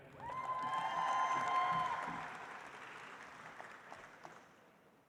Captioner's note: audience applauds